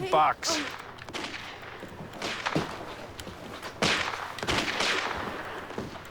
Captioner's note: video game Gunshots